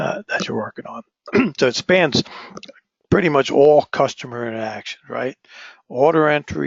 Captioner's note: cough